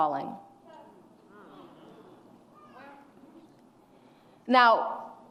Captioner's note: audience grumbles